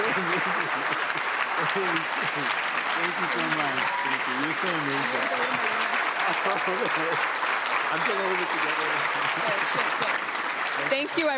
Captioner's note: cheering/Applause